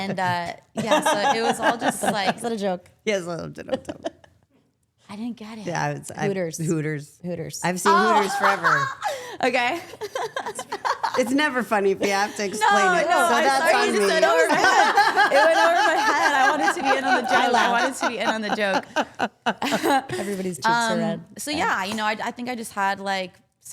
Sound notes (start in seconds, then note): 9.6 Liv laughing